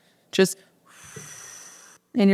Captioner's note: breathes out